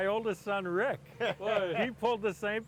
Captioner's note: laughing